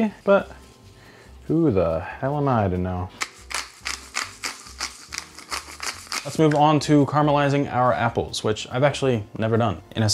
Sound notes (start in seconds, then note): 3.1 pepper grinding